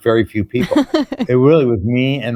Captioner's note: laughs